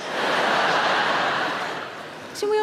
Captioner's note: audience laughing